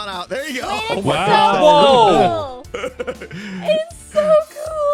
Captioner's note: crowd oooing and aweing